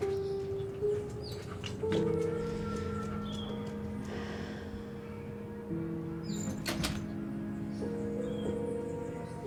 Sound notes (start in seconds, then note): 0.0 soft piano music; 4.4 sighing; 6.4 door closing